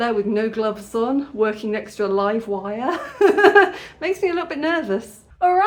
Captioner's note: nervous laugh